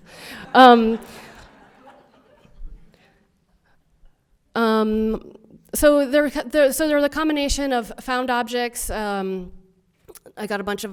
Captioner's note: audience laughter